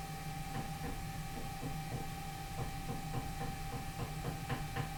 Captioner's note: light knocking sound